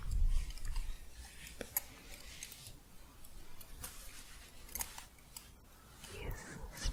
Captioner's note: gentle jingling